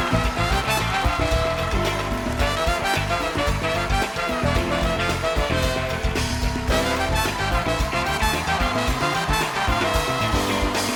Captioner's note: applause